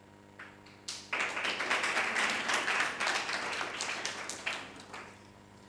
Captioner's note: audience applauding